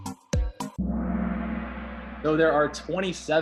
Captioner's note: gong